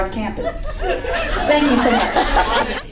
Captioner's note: laughter